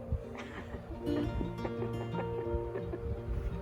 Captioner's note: laughter